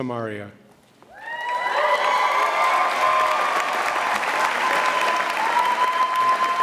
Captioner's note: audience cheers and applauds